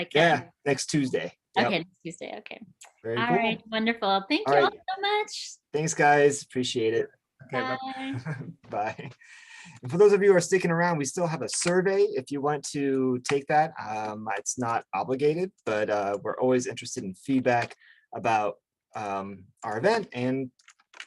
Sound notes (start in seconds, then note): 8.3 laughs